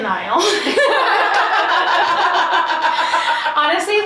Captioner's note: laughing loudly